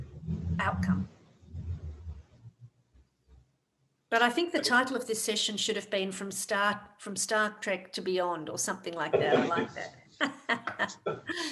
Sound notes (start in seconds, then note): 10.2 laughter